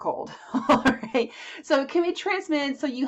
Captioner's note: chuckles